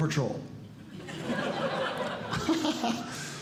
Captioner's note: audience Laughing; laughs